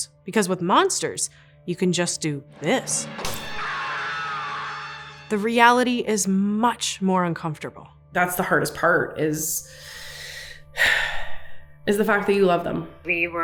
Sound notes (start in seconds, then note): 2.6 dramatic music; 9.7 takes deep breath and sighs